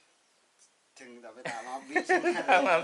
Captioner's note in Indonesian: tertawa